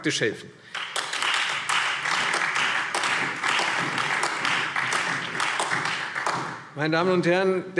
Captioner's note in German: Beifall Freie Demokraten, SPD und AfD